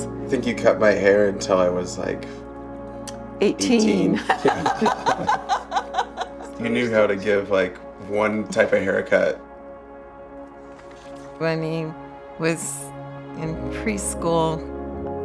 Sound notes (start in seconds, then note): 3.9 laughs